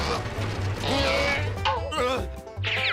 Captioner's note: grunting